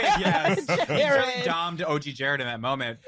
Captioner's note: laughter